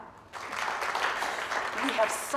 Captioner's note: applauding